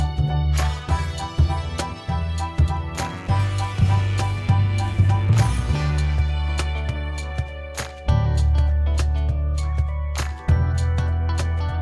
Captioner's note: applause